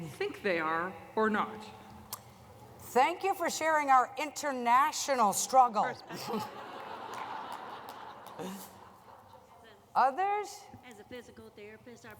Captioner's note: laughter